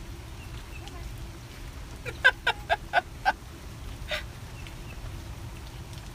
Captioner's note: laughter